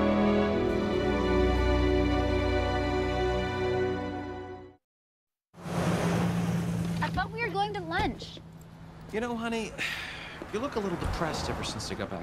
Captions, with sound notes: I thought we were going to lunch. You know, honey... [sighing] Ever since I got back from the city,